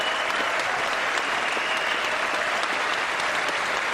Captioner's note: applause